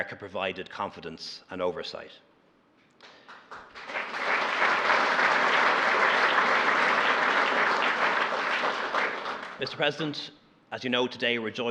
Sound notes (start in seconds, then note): 3.0 applause